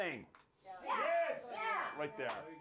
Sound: bell rings

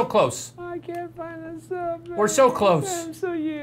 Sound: whiny voice

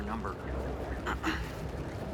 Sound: clears throat

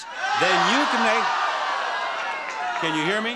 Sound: crowd yells

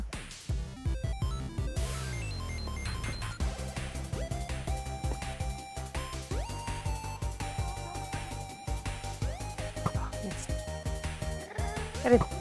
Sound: laughing

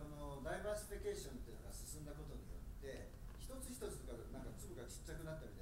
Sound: speaking in foreign language

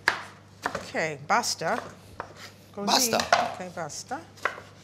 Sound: italian

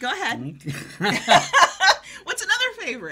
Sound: laughing

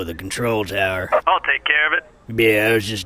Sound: voice over radio

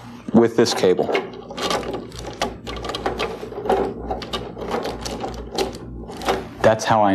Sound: plastic rubbing

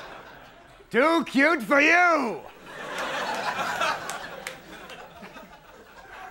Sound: audience laughs; audience laughing

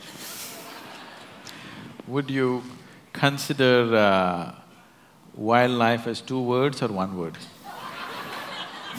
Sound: laughter; laughter

